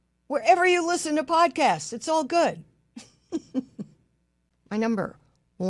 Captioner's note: laughs